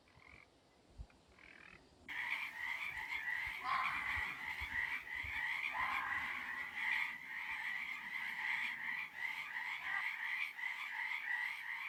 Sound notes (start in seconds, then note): 2.1 frogs ribbiting; 3.8 creature bellowing